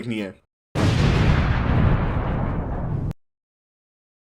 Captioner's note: boom